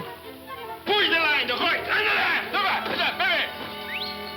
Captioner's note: man shouting; whistles